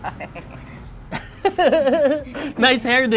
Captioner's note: laughter